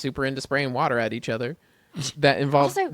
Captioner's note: laughs